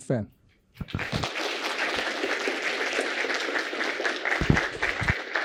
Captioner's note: applause